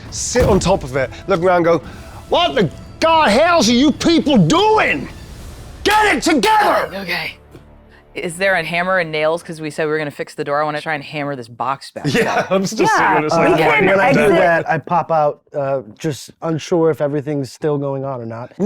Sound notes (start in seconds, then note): 7.0 speaks faintly